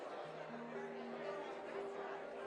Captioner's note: crowd chattering